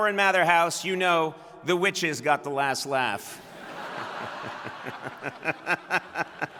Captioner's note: laughs